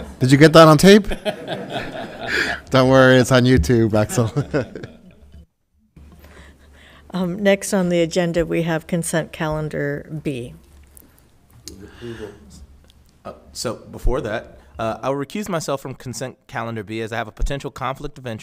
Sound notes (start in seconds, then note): 0.0 all laughing; 6.1 laughs